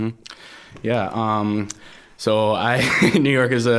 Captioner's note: laughing